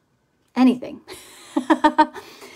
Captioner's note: laughs